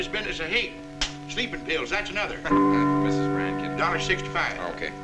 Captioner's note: doorbell